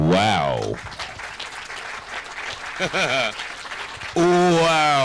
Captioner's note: crowd applauding